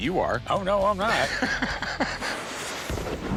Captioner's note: laughs